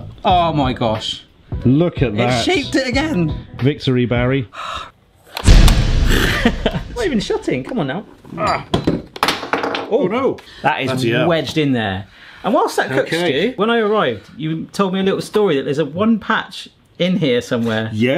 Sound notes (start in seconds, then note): 5.4 lid slamming dramatically; 5.6 laughs; 8.5 grunts; 8.5 object clatters